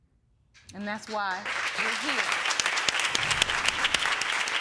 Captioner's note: audience applauding